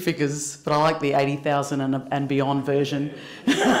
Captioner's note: laughter